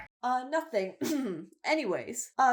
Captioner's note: clears throat